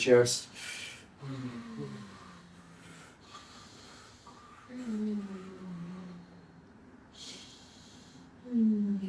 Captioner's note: moaning